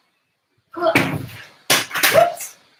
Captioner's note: pins crashing